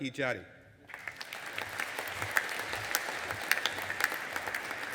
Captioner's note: audience applauding